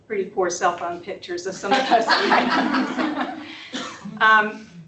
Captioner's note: laughter